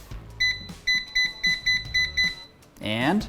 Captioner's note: machine beeping